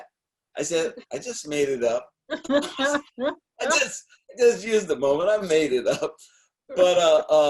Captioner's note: laughing